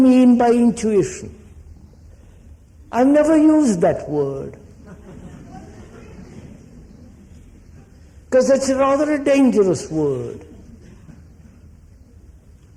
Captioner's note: laughter